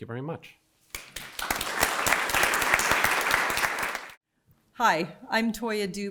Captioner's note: audience clapping